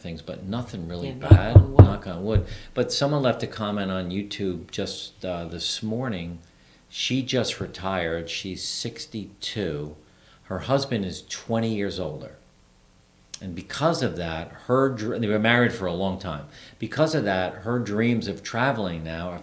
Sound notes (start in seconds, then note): 1.1 knocking on wood